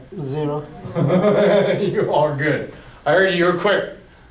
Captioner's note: voiceover; chuckles